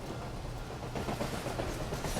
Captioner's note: train passing